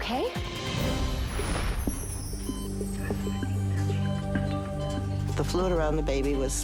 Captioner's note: dramatic music; heart monitor beeping